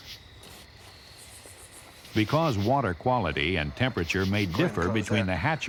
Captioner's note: voiceover